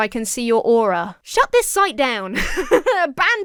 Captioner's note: laughs